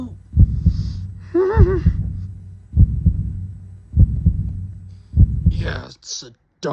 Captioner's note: heartbeat